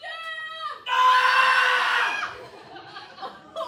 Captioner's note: screams